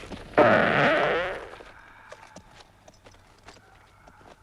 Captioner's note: Torente farts